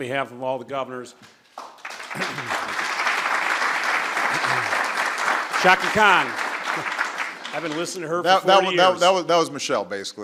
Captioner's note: applause